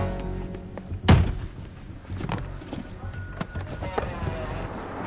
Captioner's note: door slamming